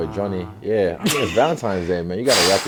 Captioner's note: laughs